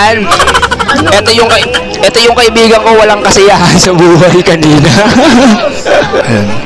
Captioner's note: laughs